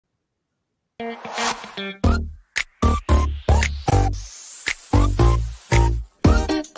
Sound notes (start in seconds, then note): 1.0 graphic whooshing; 1.1 upbeat music